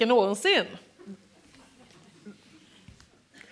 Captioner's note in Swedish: skratt